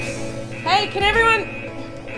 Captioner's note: yelling at people outside the studio